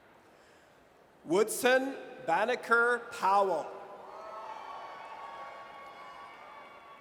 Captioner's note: audience cheers